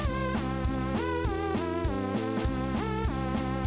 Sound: none

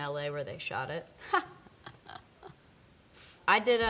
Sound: laughs

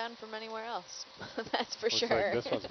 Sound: laughs

